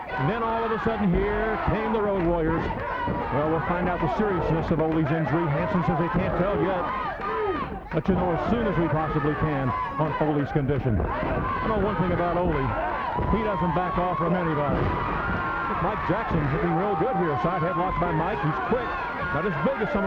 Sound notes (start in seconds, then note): 7.1 blows thudding